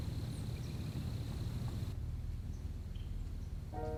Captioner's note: birds chirping